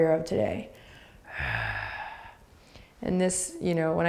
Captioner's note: grunting